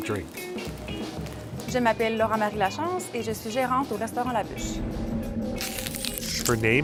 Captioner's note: speaking french